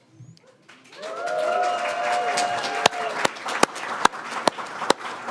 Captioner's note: audience applauds